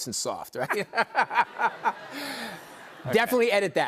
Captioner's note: laughter